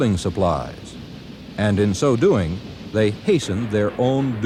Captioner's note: train chugging